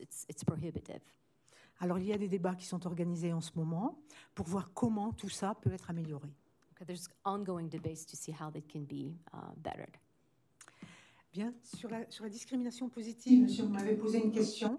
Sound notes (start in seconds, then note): 1.8 speaking french; 11.2 speaking french